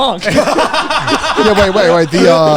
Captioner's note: laughing